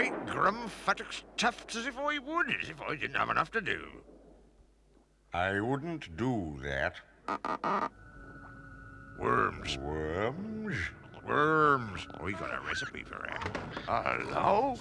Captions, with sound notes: Great Grum fattock's tufts, as if I would! As if I didn't have enough to do! I wouldn't do that. *Creak* Worms. Worms? Worms! I've got a recipe for them. 'Allo!